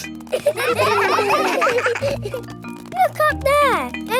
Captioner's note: children laughing